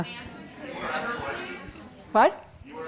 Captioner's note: audience murmuring